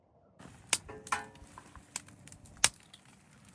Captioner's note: crackling fire